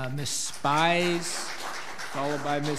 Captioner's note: audience applauds